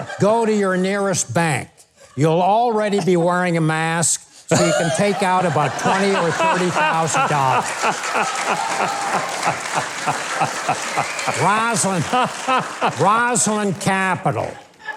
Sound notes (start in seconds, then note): 7.9 crowd laughing